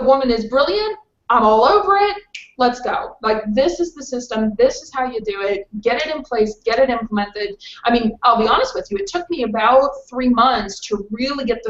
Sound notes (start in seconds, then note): 2.3 fingers snap